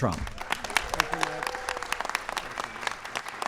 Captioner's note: applause